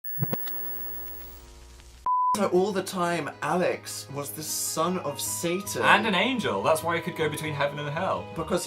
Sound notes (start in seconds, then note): 0.0 TV static